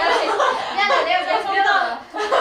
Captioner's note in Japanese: ハハハ